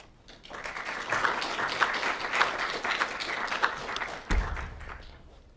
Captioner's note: applause